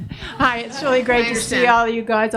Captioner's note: audience laughs